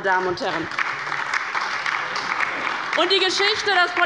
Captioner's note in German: Beifall bei der LINKEN und der SPD